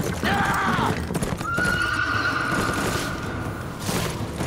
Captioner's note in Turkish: At kişniyor